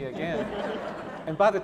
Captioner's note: laughing